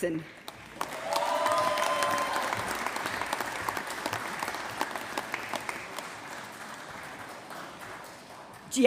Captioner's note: applause